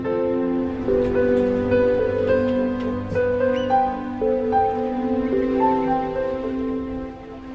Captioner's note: seabirds calling